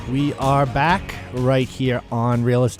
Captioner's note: voiceover